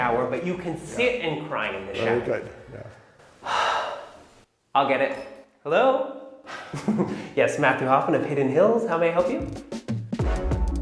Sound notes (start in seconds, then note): 6.5 laughing; 9.1 upbeat music